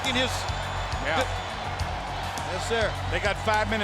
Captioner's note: crowd cheering